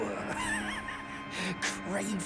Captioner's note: wheezing laughter